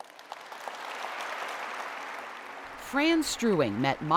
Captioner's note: audience clapping